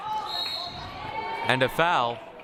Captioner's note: whistle blaring